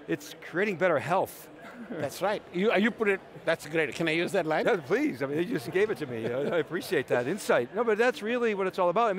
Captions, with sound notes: it's creating better health. >> That's right. You put it, that's great, can I use that line? >> Yeah please, you just gave it to me. (laughing) I appreciate that insight. But that's really what it's all about.